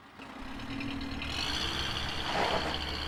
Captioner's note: van drives off